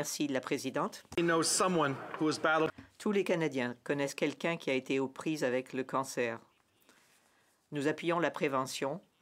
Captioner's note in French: voix de l'interprète